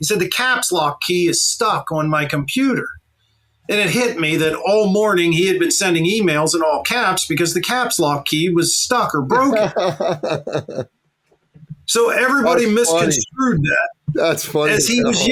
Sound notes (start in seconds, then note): 9.3 laughing